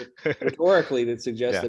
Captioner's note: laughter